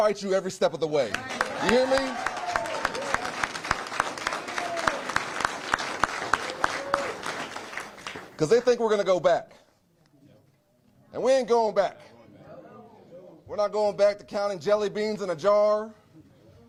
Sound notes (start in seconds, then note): 6.2 cheers; 6.6 applause